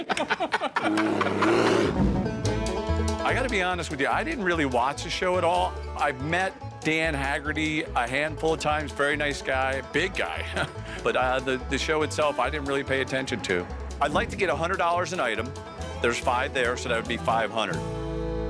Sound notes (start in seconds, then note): 0.8 bear growling; 1.6 laughing